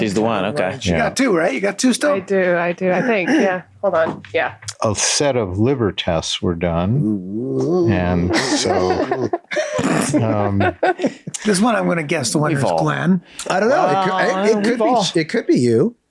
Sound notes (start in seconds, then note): 7.0 Rob oohs nervously; 8.2 all laugh